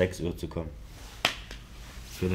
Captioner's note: slap